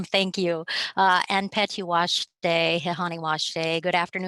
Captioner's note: speaking native language